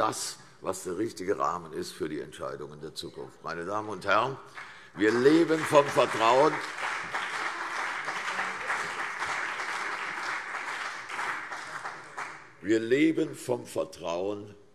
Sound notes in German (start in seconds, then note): 4.5 Beifall CDU und BÜNDNIS 90/DIE GRÜNEN